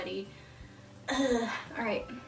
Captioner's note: sighs